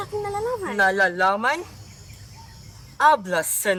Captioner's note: sarcastic